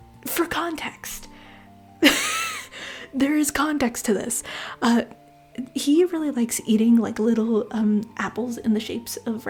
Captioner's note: laughter